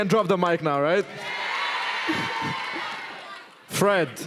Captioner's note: cheering, "Yeah!"